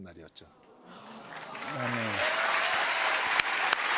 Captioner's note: cheers and applause